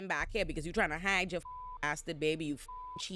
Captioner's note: beep